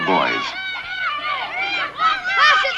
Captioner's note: children yelling excitedly